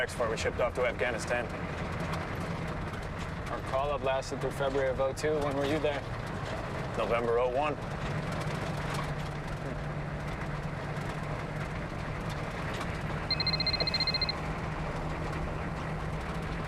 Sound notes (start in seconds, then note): 13.3 cellphone ringing